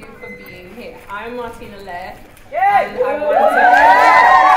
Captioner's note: cheering and applause